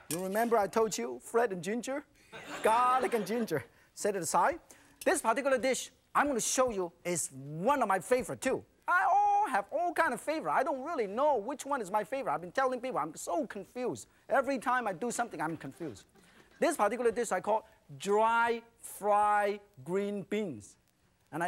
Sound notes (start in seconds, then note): 2.2 laughter; 2.3 crowd